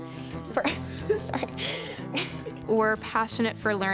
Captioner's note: chuckles